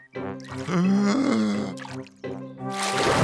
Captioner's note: takes a deep breath